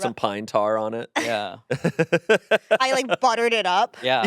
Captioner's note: laughing